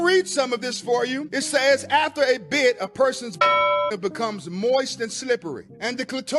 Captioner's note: bell dings